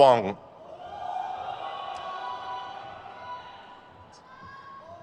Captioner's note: crowd cheers